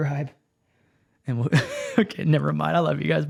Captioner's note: laughs